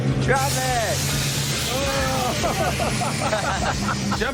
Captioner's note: laughs